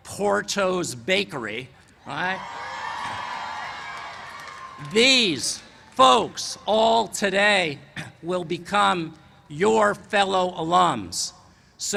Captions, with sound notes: PORTO'S BAKERY, ALRIGHT, [CHEERS AND APPLAUSE] THESE FOLKS ALL TODAY, WILL BECOME NOW BECOME "YOUR FELLOW ALUMS."